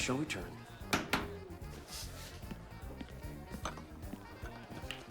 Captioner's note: hand tapping